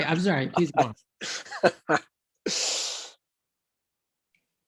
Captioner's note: laughing